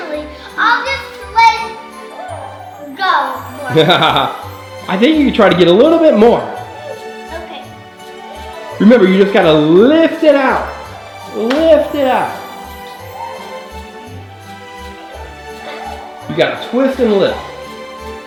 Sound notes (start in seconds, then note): 3.7 cameraman laughs; 8.3 mellow music; 12.5 mellow music; 18.1 mellow music